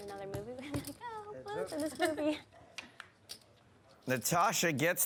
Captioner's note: laughs